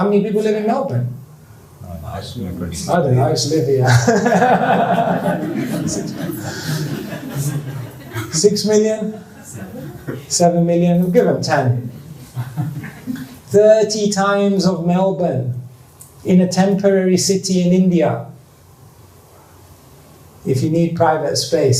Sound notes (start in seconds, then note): 8.2 laughter